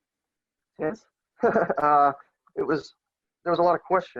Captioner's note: laughs